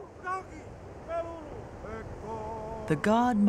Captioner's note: foreign Language; background Chanting